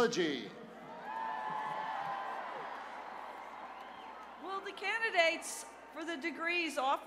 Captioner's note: cheers and applause